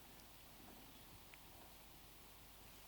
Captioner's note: silence